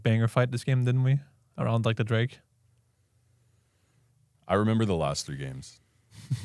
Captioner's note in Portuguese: risos